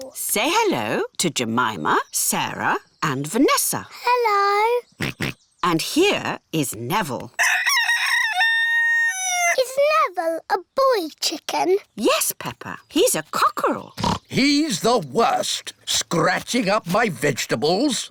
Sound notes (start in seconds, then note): 5.0 george oinks; 7.4 rooster crows; 14.0 oinks